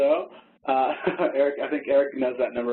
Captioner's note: laughter